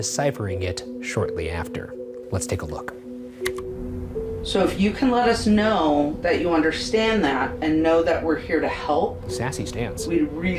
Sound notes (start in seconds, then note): 3.4 key clicks